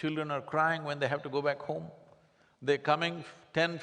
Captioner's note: none